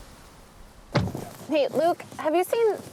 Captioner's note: car door closes